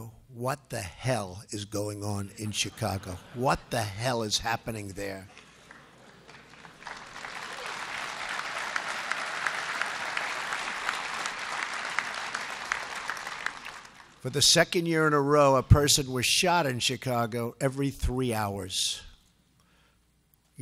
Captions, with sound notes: What the hell is going on in Chicago? (laughter) What the hell is happening there? (applause) For the second year in a row, a person was shot in Chicago every three hours.